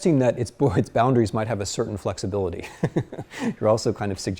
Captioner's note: chuckles